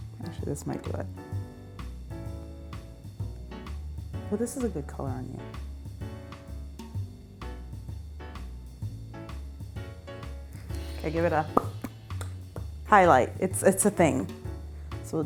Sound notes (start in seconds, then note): 1.6 bouncy music; 6.1 bouncy music; 11.5 lip pops; 11.5 lips popping